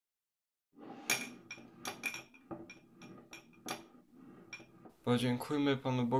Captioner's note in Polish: Dźwięk sztućców